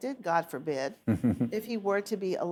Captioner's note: laughs